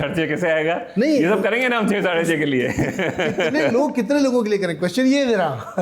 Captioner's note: laughs